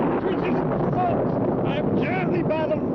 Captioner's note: thunder rumbling